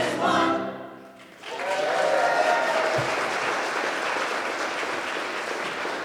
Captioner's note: audience applauding